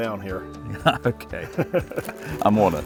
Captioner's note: chuckles